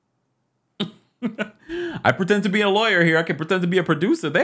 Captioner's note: laughs